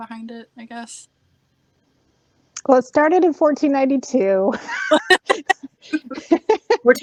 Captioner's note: laughing